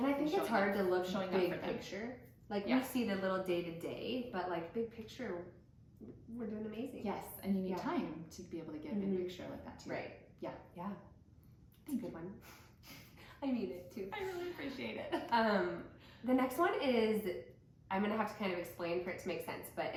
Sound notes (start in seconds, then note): 14.2 chuckles; 14.2 laughs